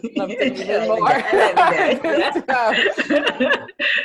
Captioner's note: laughs